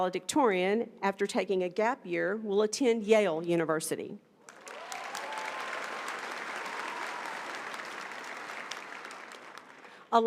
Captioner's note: applause